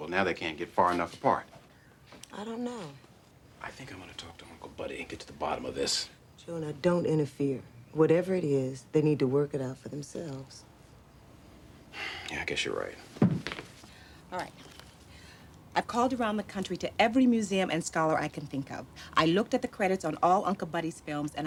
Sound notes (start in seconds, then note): none